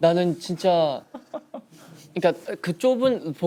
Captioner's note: laughing